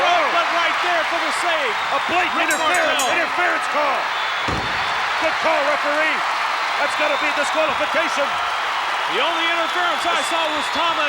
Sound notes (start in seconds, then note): 4.6 body thuds